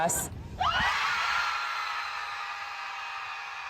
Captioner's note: crowd screams